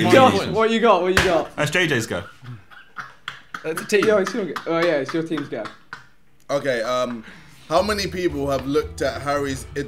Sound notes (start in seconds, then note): 3.6 laughing